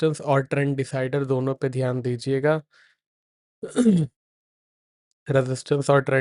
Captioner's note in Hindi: गला साफ़ करने की आवाज़